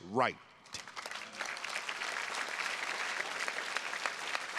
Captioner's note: attendees clapping